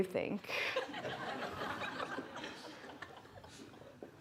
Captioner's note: everyone laughing